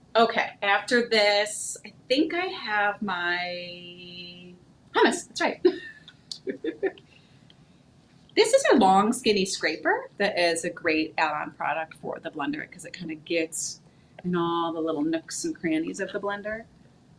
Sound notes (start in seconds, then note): 6.4 laughing